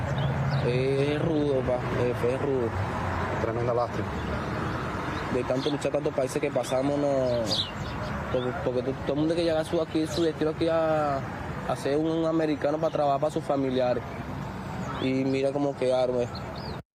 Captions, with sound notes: MIGRANTS TOLD ME EARLIER TODAY. >> [ SPEAKING NON-ENGLISH ]